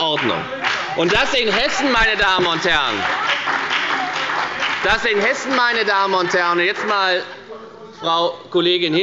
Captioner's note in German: Beifall bei der FDP und SPD – Zurufe von der SPD